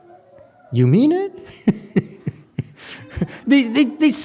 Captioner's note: laughs